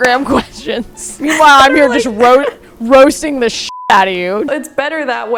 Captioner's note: beep